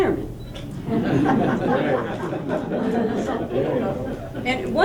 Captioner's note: laughter